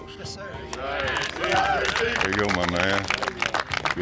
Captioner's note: cheers, clapping